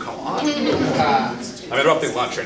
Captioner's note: audience laughing